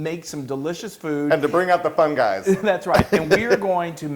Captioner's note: laugh